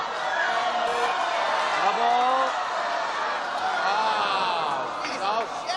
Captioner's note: cheering